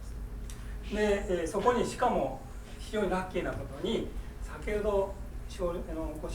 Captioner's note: speaking in foreign language